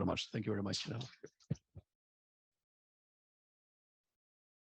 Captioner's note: audio cuts out